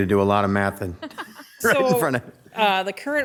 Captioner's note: panel members laughing